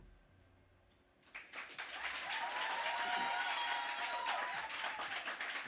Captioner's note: crowd applause